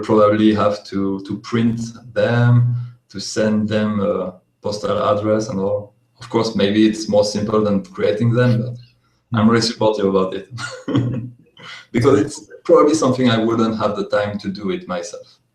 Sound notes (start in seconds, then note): 10.3 laughs